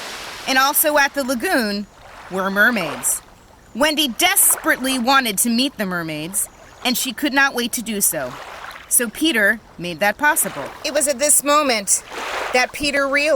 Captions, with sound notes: And also at the lagoon were mermaids. [waves and water swishing] Wendy desperately wanted to meet the mermaids, and she could not wait to do so. So Peter made that possible. It was at this moment that Peter realized